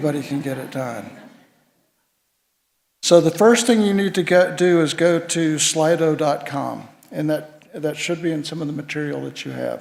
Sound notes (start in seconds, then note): 0.2 laughter